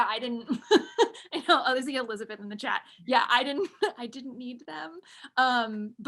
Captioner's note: laughs